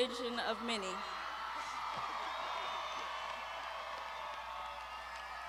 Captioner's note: graduands shouting